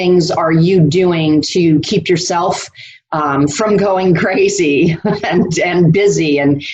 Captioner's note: laughs